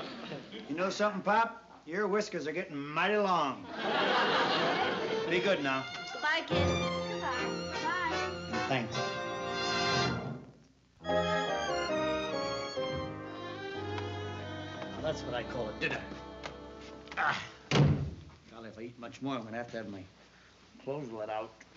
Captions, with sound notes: You know something, Pop? Your whiskers are getting mighty long. Be good now. - Goodbye, kids. - Goodbye. Goodbye. And thanks. [UPBEAT MUSIC] [SLOW MUSIC] That's what I call a dinner. [GROANS] [DOOR CLOSES] Golly, if I eat much more, I'm going to have to have my clothes let out.